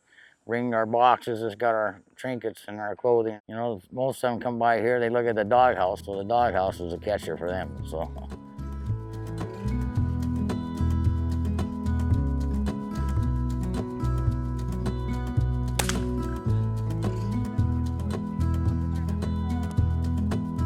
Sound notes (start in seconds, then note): 9.5 soft guitar music; 15.8 gun shot